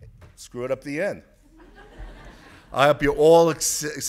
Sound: audience laughs

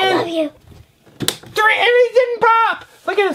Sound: voiceover

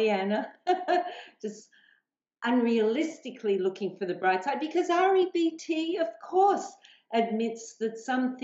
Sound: chuckles

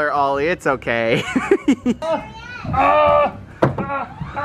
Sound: laughing

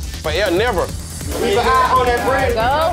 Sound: loud chatter

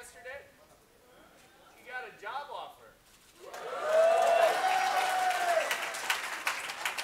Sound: cheers and Applause

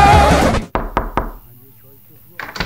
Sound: knock on door

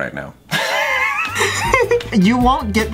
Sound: laughs

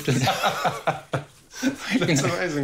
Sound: both laugh

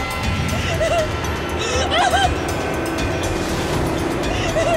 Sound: Amanda crying

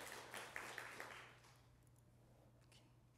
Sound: applause

